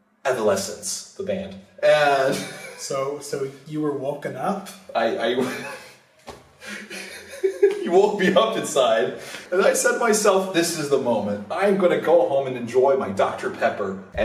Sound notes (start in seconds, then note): 2.1 busts in laughter; 6.6 laughter